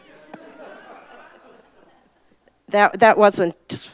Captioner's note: audience laughs